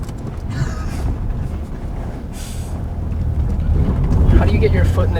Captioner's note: group laughter